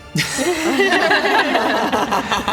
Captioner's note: surprised laugh